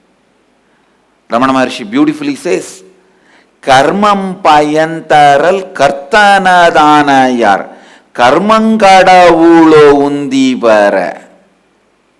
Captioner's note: other language